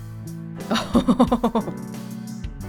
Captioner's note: chuckles